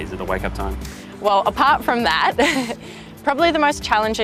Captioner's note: laugh